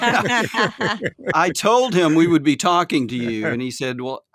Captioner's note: laughing